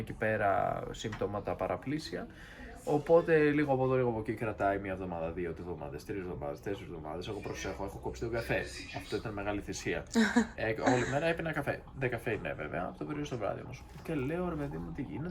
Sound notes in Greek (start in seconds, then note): 10.8 γέλια